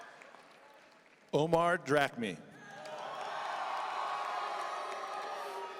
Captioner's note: audience cheering; audience cheering